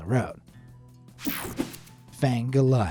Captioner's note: screen buzzes and whooshes